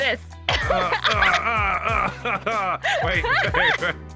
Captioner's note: woman laughs; man grunting